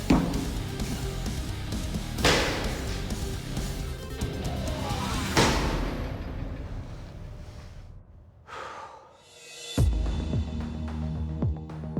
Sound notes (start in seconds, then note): 8.4 exhales